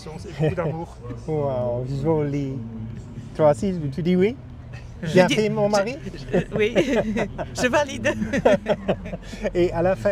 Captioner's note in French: rires